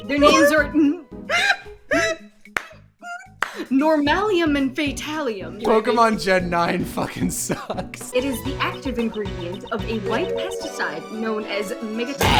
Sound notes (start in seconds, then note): 0.2 pained laughing